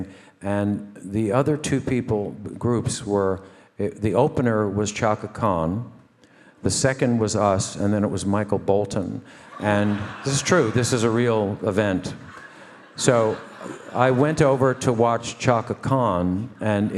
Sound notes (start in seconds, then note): 9.9 audience laughing